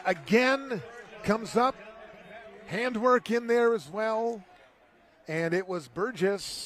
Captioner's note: applause